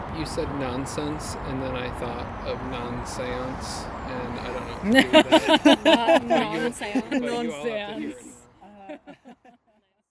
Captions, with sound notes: You said nonsense. And then I thought of non-séance and (laughing)